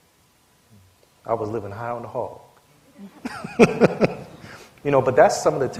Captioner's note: laughter